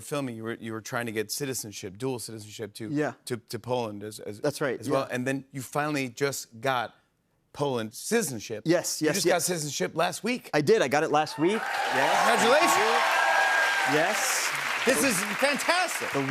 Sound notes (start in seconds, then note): 11.2 cheers and applause